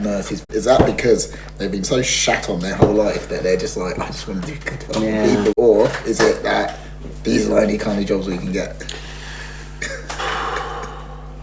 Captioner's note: sighs